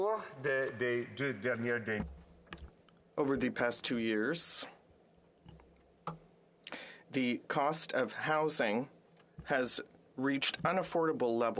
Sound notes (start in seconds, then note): 8.1 speaking French